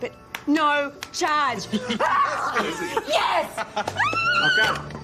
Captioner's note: screams